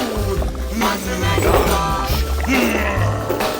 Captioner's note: growling